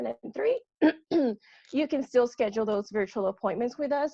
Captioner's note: clears throat